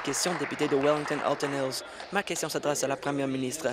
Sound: applause

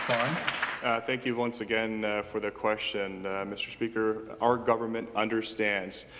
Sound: some Applause

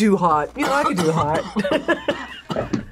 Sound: laughs

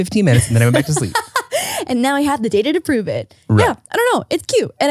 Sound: laughs

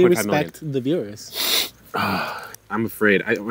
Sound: sniffs

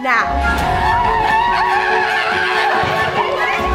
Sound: terrified screaming

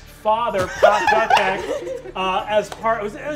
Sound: all laughing

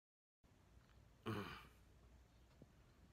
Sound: Hayao Miyazaki grunts disapprovingly

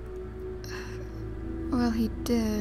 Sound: sigh

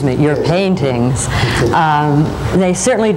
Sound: laughs

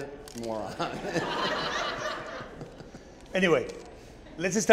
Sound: audience laughing

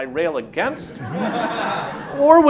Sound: laughter

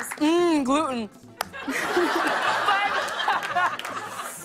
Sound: laughter

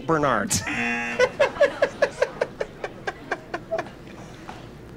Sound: buzzer; laughs

